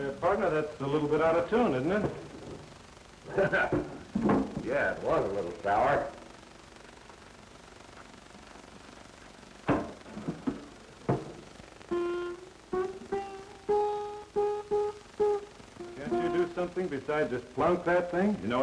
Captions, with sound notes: Say, partner, that's a little bit out of tune, isn't it? [chuckle] Yeah, it was a little sour. [plucking strings] Can't you do something besides just plunk that thing?